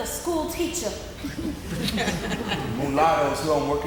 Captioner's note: audience laughing